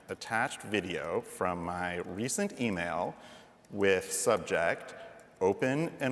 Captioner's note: none